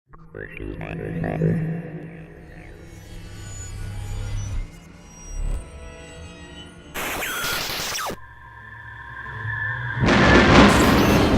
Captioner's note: sound Effects